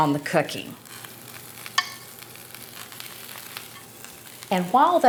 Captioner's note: sausages sizzling